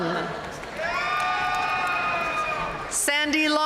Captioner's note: audience cheering and applauding